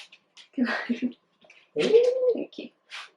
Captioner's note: laughing